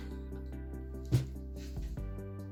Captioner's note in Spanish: golpe seco en la mesa